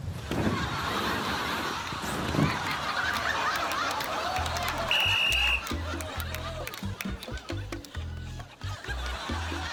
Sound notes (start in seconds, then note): 4.8 blows whistle